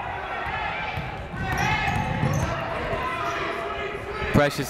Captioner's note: people shouting in the crowd